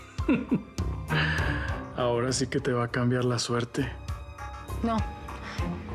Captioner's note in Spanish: risas